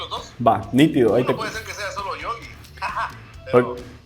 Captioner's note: laughs